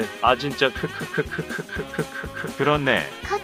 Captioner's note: laugh of relief